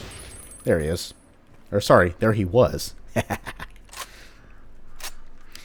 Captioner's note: devious chuckle